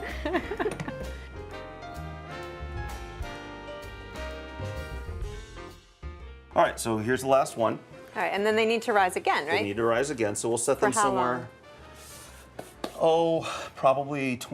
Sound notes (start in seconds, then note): 0.0 laughter